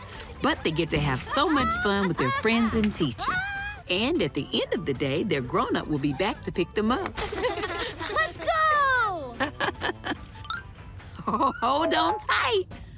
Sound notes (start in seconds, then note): 7.2 elephants giggling; 9.2 chuckles